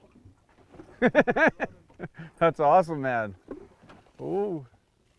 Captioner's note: laughter